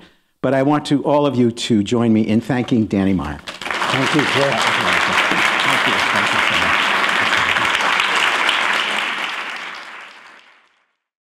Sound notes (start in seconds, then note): 1.4 applause